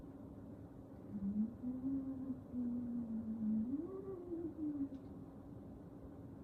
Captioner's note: ghostly moaning